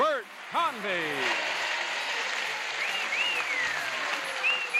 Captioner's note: audience applauds